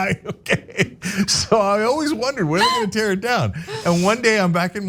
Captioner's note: laugh